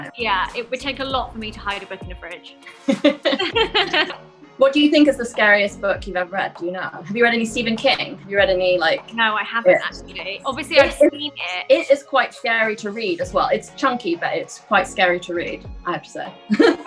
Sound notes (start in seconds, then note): 2.7 laughter